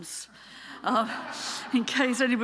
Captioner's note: audience laughing